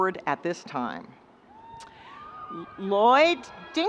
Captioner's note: students cheering and screaming